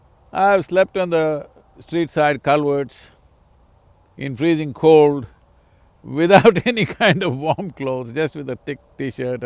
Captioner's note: laughs